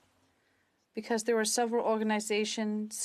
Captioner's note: speaking French